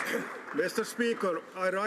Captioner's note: some Applause